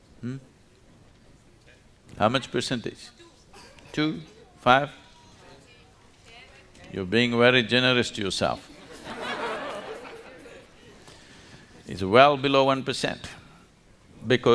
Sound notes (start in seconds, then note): 8.6 laughter; 8.6 笑聲